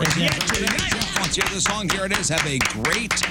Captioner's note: clapping